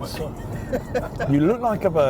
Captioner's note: laughing